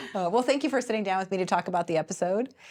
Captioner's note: both laughing